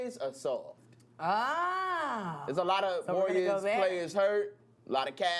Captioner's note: groans